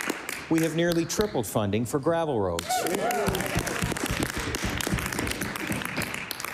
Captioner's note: applause